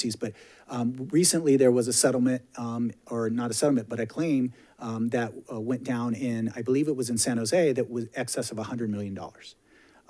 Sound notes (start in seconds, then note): none